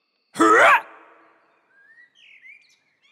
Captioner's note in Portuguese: Soluço